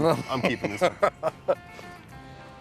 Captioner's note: laughs